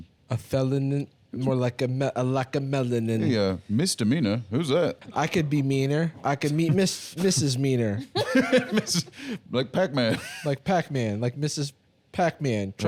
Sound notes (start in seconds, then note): 7.9 laughs